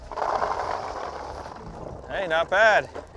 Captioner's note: cranberries tumbling